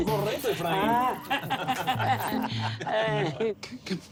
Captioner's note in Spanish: Risas